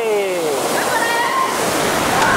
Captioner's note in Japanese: 叫び